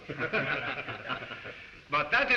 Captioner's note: all chuckle